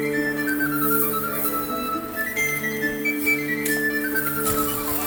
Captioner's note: chain mail clanging